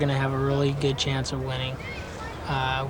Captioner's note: kids voice playing in background